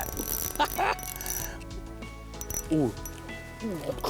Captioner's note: laughs